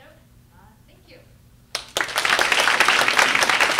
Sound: applause

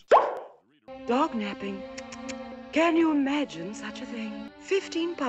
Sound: tuts

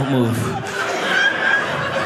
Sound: audience laughing

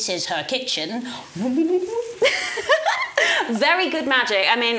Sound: hums; giggles

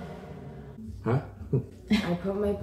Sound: laughs

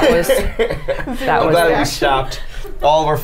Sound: the group laughs

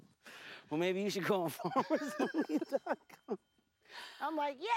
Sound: laughs

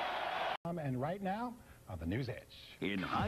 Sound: crowd cheering

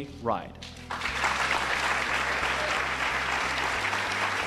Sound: applause

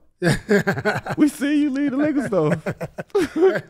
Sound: Metta laughs; laughs

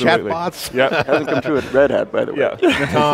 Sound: laughing

